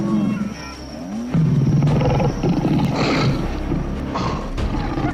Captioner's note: snarling